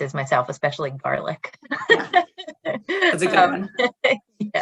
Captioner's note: laughs